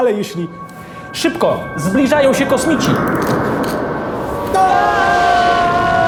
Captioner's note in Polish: krzyk